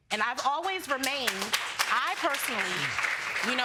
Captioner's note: audience applauds